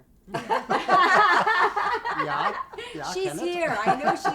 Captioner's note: laughing